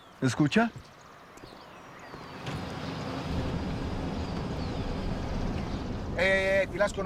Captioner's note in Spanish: Ruido de un vehículo